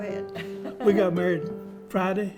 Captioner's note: laughs